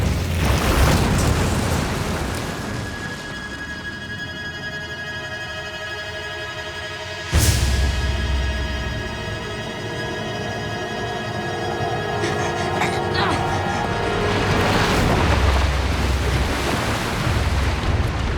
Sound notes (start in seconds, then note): 11.7 grunting; 14.1 splashing